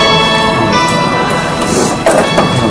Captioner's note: sniffles